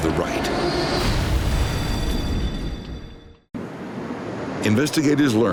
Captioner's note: aircraft exploding